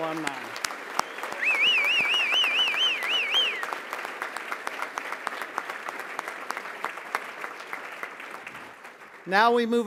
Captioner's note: applause